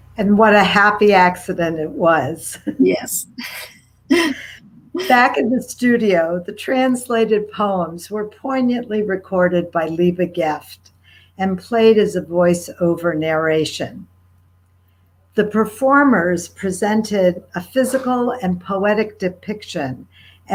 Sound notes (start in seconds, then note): 4.1 laughing